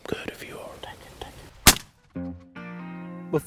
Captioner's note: whispering